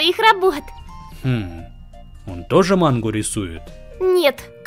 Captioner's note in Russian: смеется